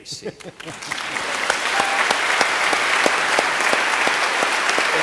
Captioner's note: audience applauding